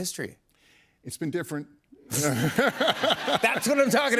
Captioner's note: laughter